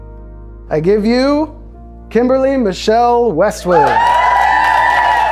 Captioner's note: clapping